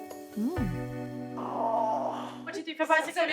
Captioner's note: Abby groans